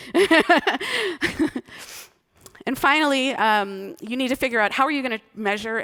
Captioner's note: laughter